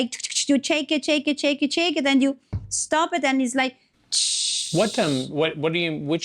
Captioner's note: tshhhhhhhh